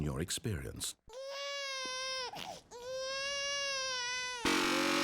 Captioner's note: baby wailing; obnoxious button sound, wailing continues